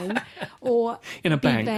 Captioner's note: laughing